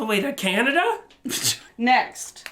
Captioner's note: chortles